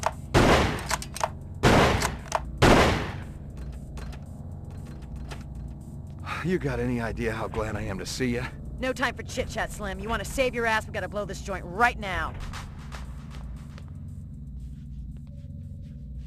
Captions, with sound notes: (sighs) You got any idea how glad I am to see you? No time for chit-chat, Slim. You want to save your ass, we've gotta blow this joint right now.